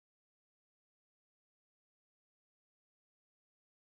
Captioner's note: none